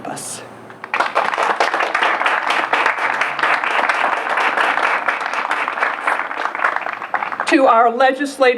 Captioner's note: applause